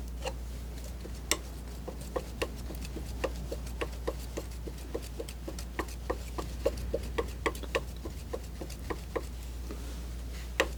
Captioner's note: tapping